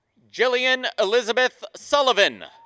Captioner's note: applause; applause and cheering